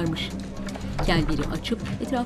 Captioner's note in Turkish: Kapı açılma sesi